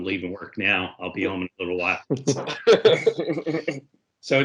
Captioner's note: everyone laughs